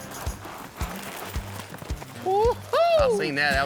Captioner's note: laughing